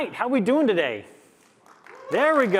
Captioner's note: applause